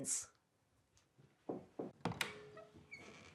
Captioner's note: knock